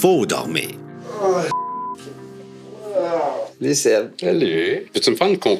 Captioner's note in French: gémissements